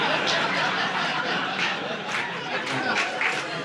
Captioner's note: audience laughing